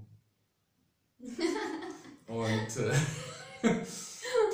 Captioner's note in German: beide lachen